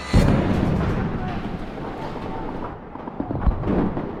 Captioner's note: tank firing